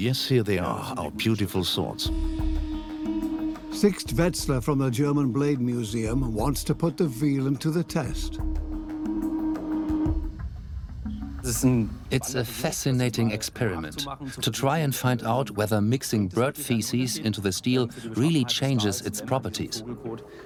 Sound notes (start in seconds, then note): 11.3 in German; 12.5 dubbed in English